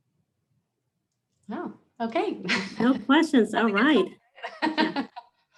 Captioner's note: laughs